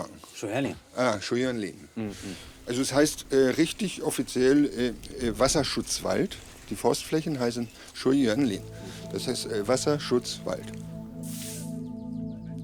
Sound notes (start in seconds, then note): 11.1 soft scraping